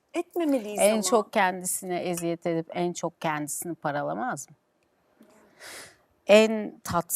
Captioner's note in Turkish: homurdanır